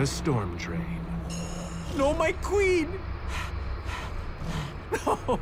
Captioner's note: exhaling